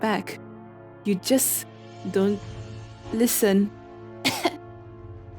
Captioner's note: cough